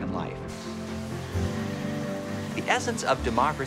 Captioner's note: machines whirring